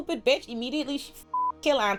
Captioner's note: beep